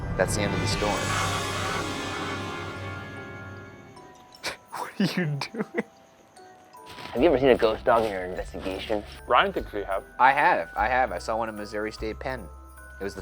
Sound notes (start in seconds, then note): 1.6 soft intense music; 4.3 laughs